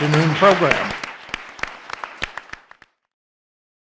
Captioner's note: crowd clapping